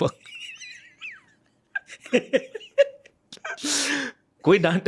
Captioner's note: laughter